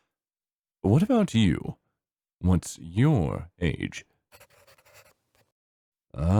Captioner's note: pencil scribbling